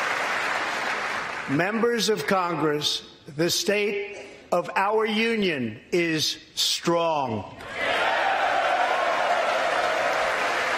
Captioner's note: applause